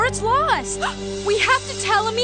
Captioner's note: gasp